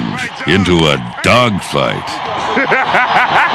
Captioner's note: laughs